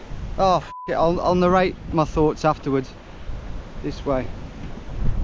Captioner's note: beep